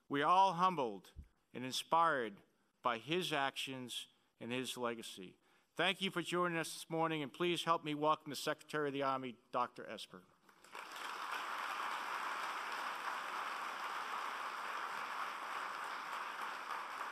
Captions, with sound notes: We're all humbled and inspired by his actions and his legacy. Thank you for joining us this morning and please help me welcome the Secretary of the Army, Dr. Esper. (applauding)